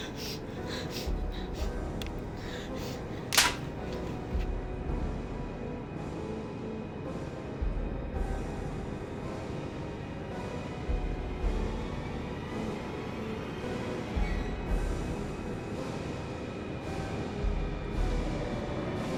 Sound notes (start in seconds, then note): 0.3 ominous music; 3.2 hand slapping; 7.0 ominous music